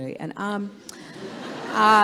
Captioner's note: laughter